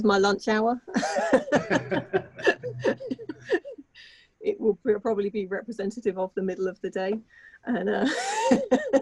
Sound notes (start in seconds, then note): 4.3 laughter